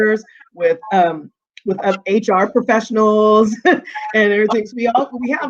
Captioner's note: chuckling